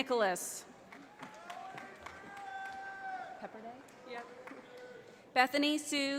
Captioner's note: audience applauding